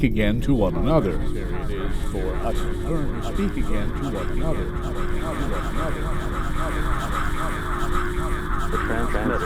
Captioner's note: echoes